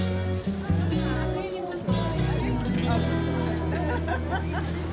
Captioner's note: indistinct chatter and laughing